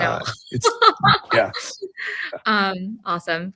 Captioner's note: laughter